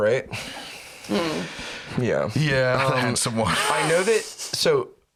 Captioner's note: makes noncommittal noise